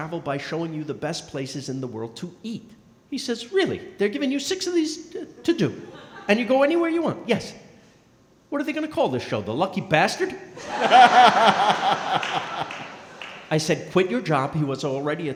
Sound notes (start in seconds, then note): 10.6 & crowd laughing